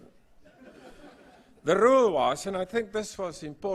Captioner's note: laugh